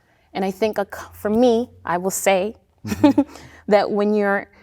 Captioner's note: chuckling